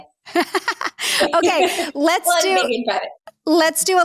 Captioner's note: both laugh